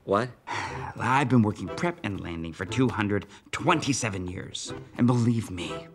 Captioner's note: sighs